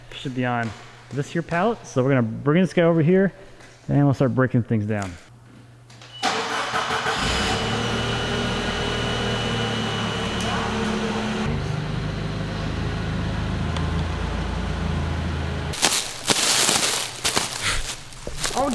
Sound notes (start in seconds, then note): 6.5 fork truck starts; 10.9 motor humming; 15.7 plastic wrap rattling